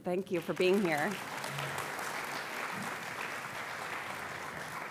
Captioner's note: applause